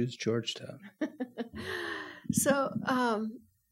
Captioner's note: laughs